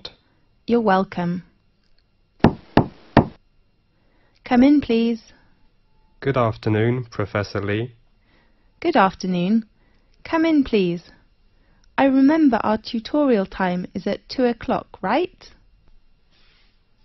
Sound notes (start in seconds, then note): 3.1 knock at door